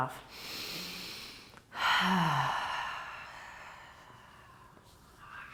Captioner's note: breathing